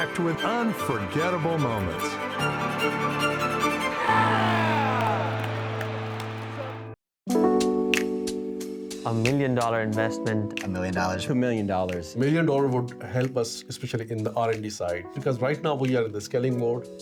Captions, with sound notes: with unforgettable moments. (cheering) (upbeat music) A million dollar investment. A million dollars. A million dollars. A million dollars would help us, especially in the R&D side, because right now we are in the scaling mode,